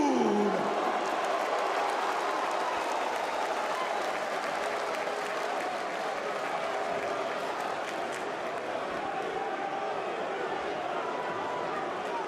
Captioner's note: crowd cheering